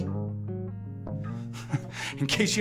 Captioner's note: chuckling